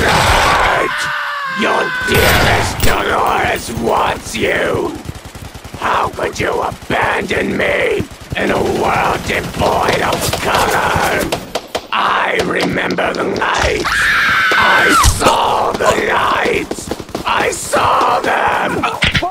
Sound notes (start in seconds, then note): 0.0 automatic gunfire; 0.0 deathly scream; 0.6 automatic gunfire; 2.1 gunshot; 2.3 automatic gunfire; 11.7 misc. gunfire; 13.8 deathly shrieking; 14.0 misc. gunfire; 16.8 misc. gunfire